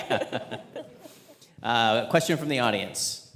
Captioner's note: all laughing